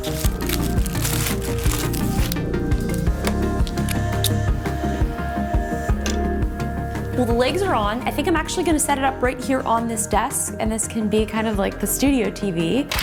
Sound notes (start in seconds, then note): 0.0 paper rustling; 0.2 upbeat music; 2.4 upbeat music